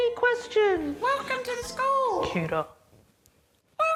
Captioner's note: squeaky voice